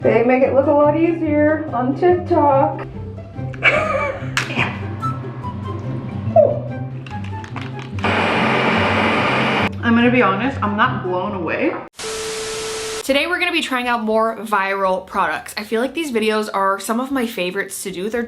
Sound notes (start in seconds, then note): 3.5 chuckles; 8.0 blender thrumming; 12.5 video beeping